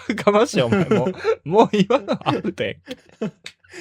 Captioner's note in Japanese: 笑い